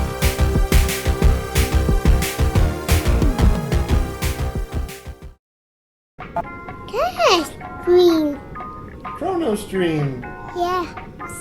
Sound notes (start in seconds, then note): 7.8 my 2 year old son babbles